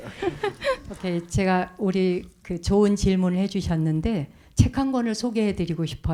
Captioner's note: speaking in Korean